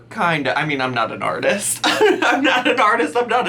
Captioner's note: laughs